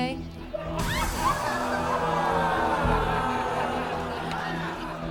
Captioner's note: audience laughs